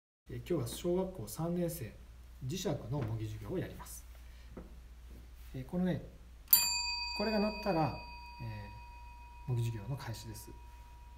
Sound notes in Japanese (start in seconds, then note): 6.5 ベルの音